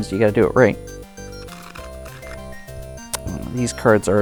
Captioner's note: cards riffling